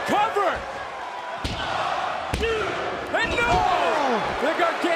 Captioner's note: crowd cheering